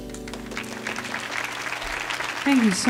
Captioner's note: audience applauding